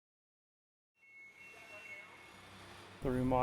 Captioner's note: beeping